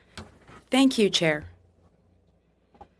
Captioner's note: speaking French